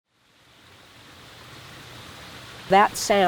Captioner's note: stream flowing